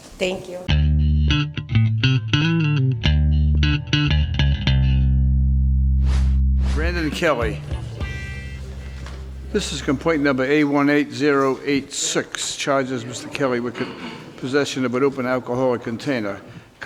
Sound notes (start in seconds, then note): 1.5 bass music; 6.0 whooshing